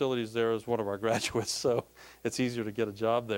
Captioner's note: laughing